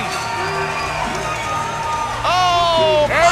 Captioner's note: crowd cheering